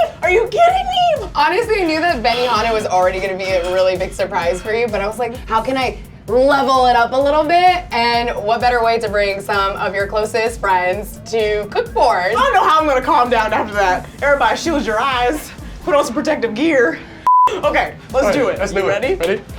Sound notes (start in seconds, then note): 17.2 beep